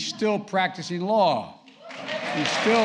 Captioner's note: applause